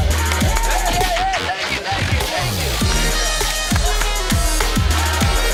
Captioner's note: whooping and exclaiming